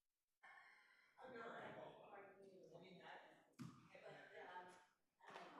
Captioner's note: group chattering